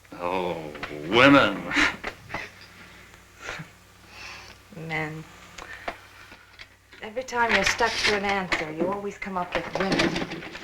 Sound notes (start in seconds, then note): 1.9 scoffs